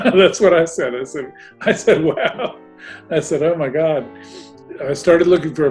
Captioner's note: laughing